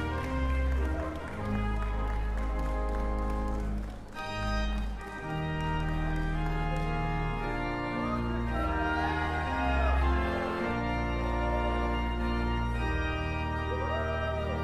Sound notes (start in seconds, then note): 3.5 upbeat music; 8.0 cheering